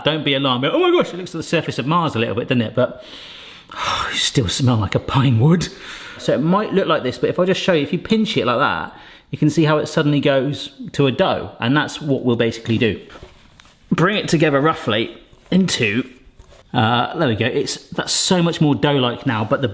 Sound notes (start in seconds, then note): 3.2 sniffs